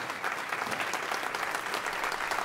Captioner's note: crowd clapping